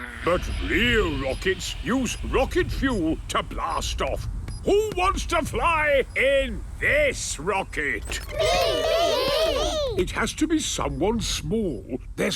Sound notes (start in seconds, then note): 8.2 calling out in turn